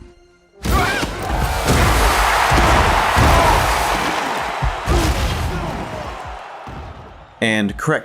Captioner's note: smashing